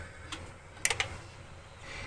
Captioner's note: clicking